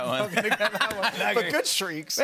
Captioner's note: laughter